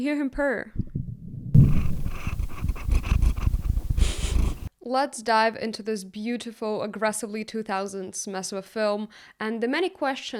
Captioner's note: Count Vasiliy purring